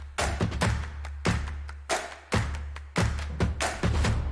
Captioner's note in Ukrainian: оплески